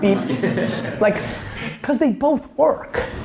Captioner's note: laughs